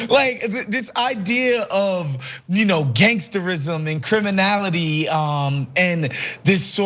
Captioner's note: laugh